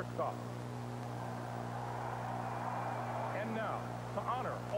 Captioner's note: applause